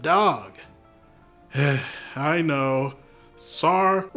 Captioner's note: sigh